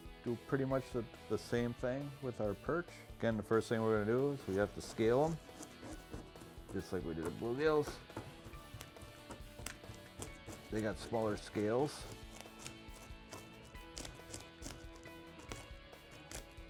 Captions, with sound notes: do pretty much the same thing with our perch. Again, the first thing we're gonna do, is we have to scale 'em. (scaler scrapes) Just like we did the bluegills. They got smaller scales.